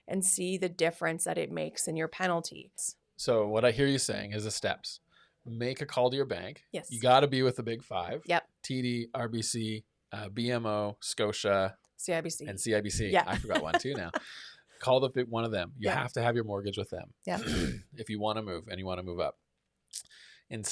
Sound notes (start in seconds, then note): 13.0 laughs